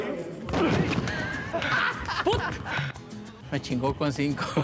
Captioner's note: ríe